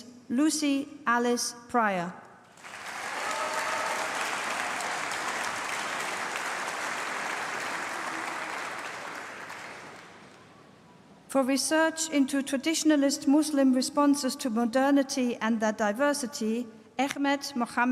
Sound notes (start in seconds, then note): 2.4 applause